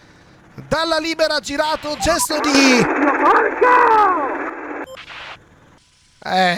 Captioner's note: radio communication